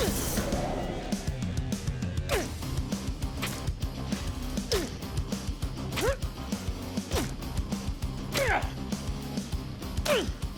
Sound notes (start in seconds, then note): 0.3 hardcore music; 3.7 grunting